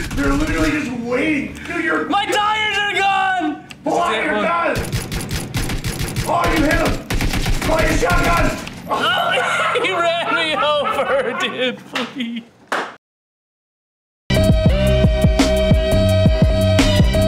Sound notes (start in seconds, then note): 4.7 gunfire; 14.3 upbeat music